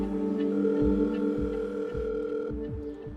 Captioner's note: telephone ringing